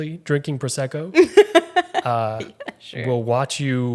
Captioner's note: laughing